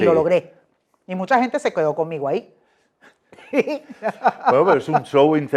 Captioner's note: evil laugh